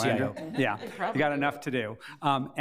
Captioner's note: committee members laugh